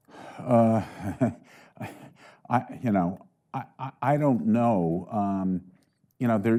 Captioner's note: chuckling